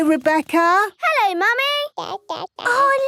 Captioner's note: babbling